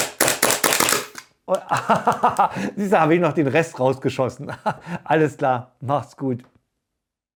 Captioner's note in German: gelächter